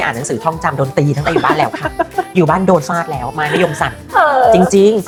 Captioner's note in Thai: เสียงหัวเราะ